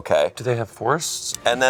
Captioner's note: laughing